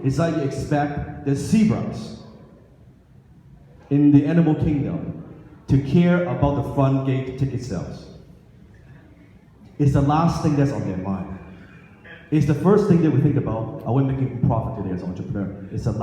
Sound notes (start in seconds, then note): none